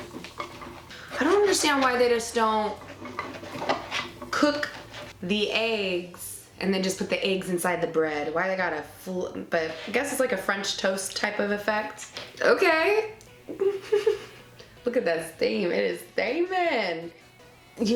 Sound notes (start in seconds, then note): 13.4 giggling